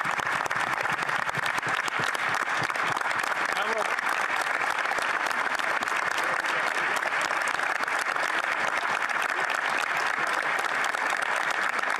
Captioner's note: applause